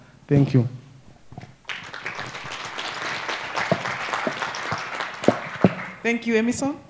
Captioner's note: applause